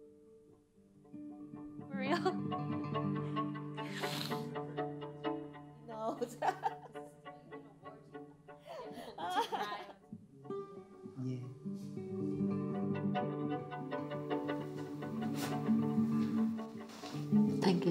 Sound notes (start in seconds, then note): 6.7 mother laughs; 11.5 gentle instrumental music